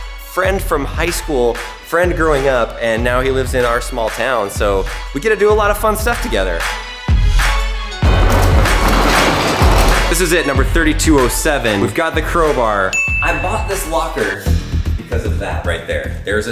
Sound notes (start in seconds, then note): 7.7 upbeat music; 8.0 garage door opens